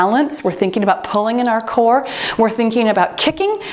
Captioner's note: timer beeps